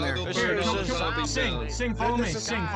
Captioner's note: everyone talks